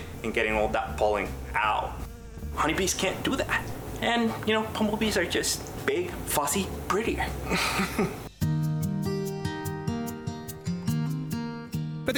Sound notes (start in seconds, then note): 7.4 laughs; 8.2 gentle upbeat music